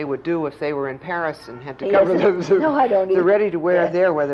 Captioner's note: laughter